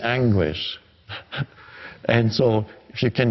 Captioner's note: chuckles